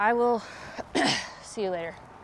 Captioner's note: Dalia clears throat